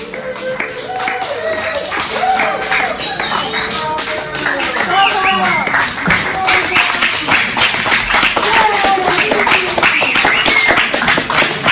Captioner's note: applause from the audience